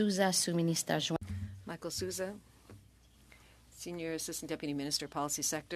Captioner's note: speaking French